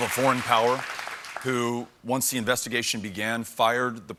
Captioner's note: applause